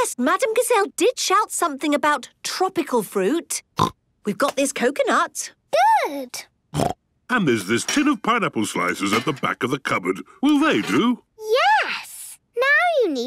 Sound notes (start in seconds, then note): 3.9 snorts